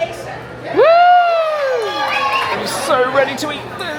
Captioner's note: people cheer